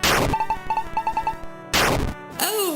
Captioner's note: game beeping; game buzzes